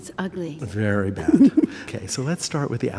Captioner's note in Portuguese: risos